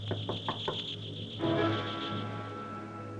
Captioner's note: knocking